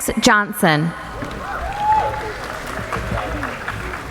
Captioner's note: applauding